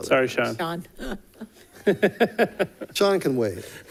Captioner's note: laughs